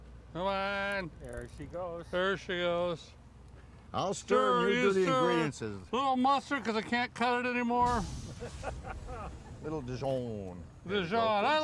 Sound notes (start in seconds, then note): 8.2 audience laughing